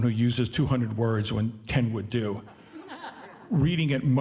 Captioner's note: audience laughing